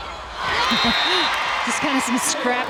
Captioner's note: players yelling; laughing; whistle blows